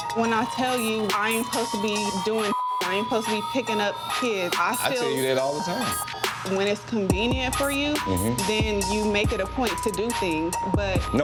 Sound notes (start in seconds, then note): 4.2 tense hip-hop music; 7.9 mmhmms